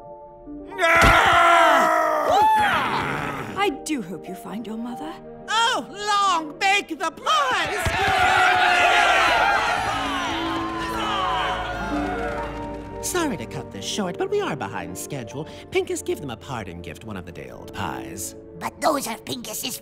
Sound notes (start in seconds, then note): 7.5 cheering